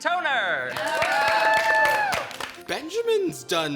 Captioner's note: all cheering and applauding